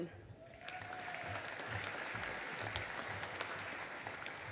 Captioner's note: audience applauding